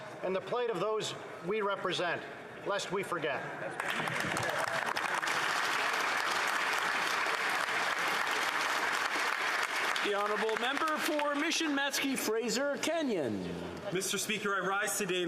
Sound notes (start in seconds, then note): 9.8 applause